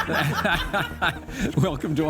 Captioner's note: laughing